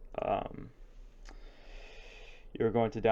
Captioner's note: long breath